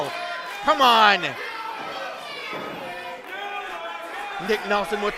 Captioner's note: crowd